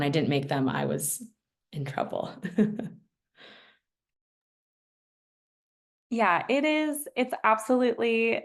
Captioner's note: laughter